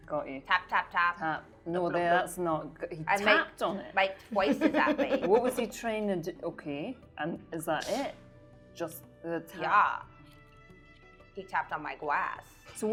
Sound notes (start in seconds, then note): 4.4 laughing